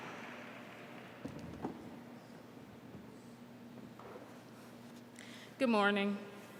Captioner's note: applause